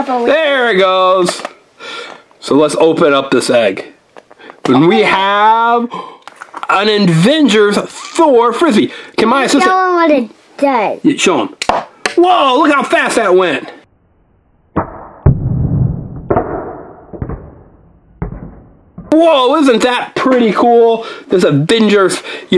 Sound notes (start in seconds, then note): 11.9 disc bangs on wall; 14.9 disc bangs on wall in slow motion